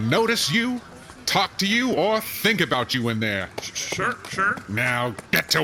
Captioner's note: Shae clops away